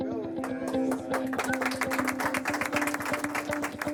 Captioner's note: clapping